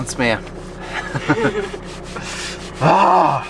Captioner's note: laughter